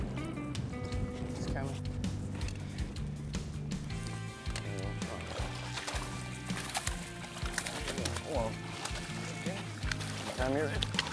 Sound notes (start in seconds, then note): 4.2 upbeat music; 6.7 water splashes